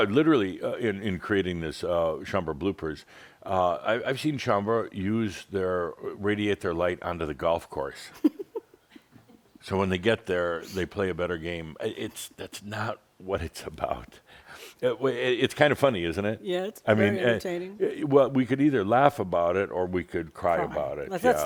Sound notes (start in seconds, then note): 8.2 giggles